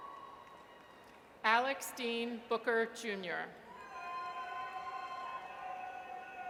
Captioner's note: audience cheers; audience cheers